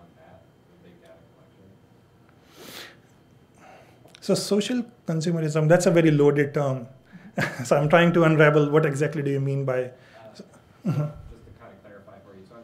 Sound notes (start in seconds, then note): 7.1 chuckles